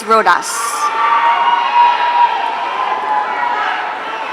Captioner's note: audience cheering